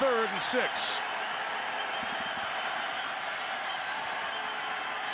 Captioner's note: cheering